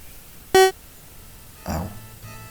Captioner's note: loud platform disappearing noise